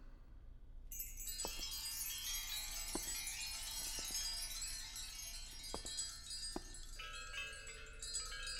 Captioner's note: wind Chimes